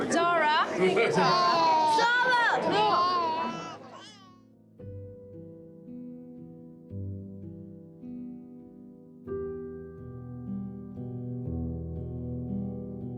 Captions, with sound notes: Zara. Will you get Zara. - Zara. (Harry crying) (gentle music)